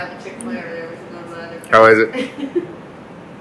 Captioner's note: background chatter